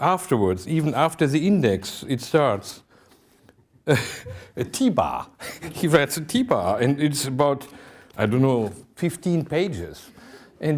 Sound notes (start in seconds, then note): 5.4 laughing